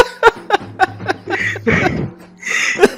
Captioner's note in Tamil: சிரிப்பு